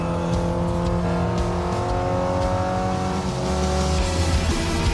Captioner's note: car revving